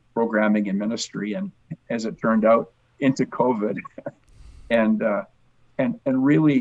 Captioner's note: chuckles